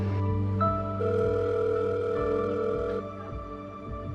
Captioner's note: telephone ringing